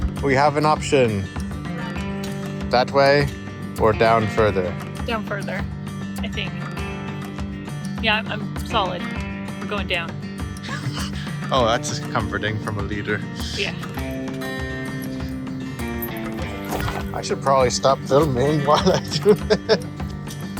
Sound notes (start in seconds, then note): 10.6 laughs